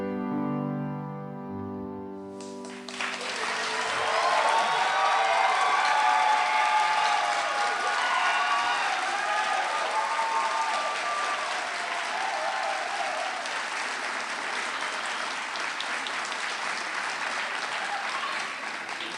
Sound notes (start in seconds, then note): 2.7 applause